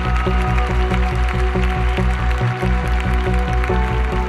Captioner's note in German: Applaus